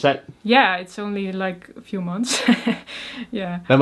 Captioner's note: laughs